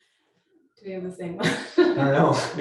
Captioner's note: laughs